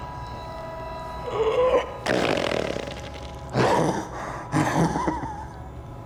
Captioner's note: grunts, laughs